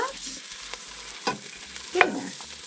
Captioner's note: food sizzling